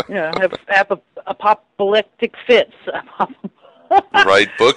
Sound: laughs

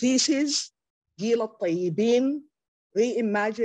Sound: speaks Arabic

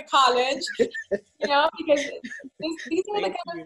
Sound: laughing

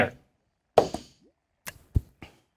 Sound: dice rolls

